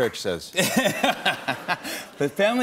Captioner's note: laughter